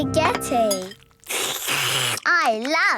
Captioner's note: slurping